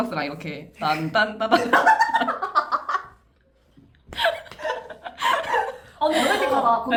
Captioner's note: laughs